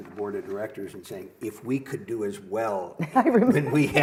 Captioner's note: laughter